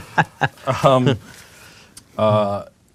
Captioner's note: laughing